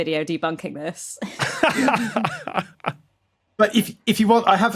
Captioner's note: group laughing